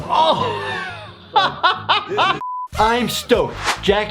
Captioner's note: dr laughs